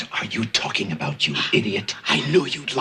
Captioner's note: whispering